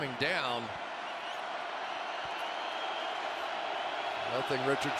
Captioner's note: cheering